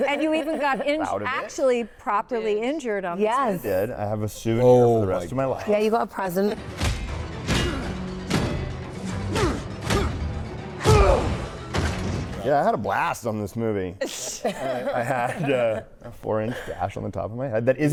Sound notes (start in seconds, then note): 6.9 blows thudding; 6.9 fighters grunting